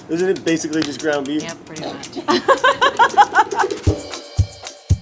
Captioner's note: laughter; upbeat drum music